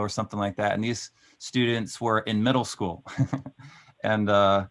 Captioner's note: laughing